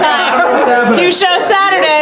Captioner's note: laughter